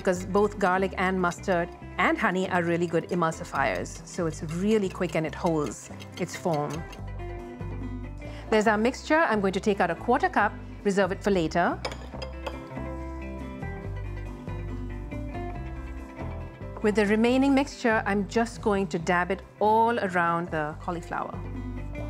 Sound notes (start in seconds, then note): none